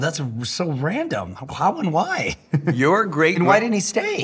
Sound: chuckles

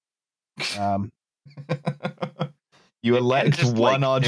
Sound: chuckles

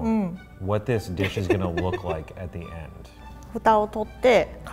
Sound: laughs; speaks in foreign language

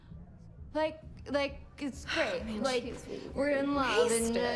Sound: slurring

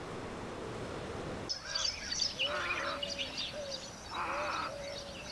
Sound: early morning sounds, shore birds

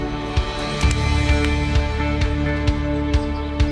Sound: hands clapping

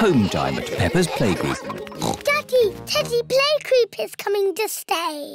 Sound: oinks

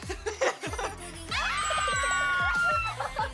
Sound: exclamations of pure joy

